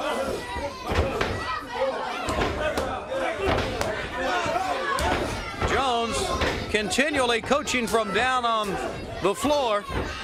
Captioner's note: crowd chatter